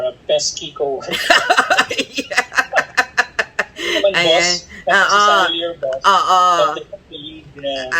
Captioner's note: laughter